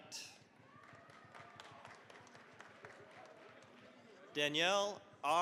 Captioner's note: cheering, applause